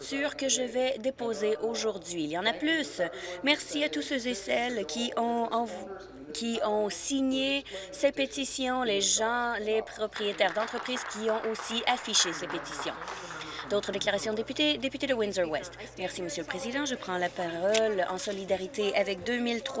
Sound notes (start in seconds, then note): 13.4 some Applause